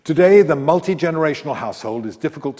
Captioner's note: none